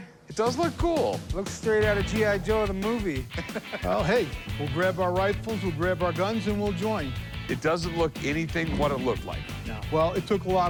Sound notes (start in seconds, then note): 3.2 laughter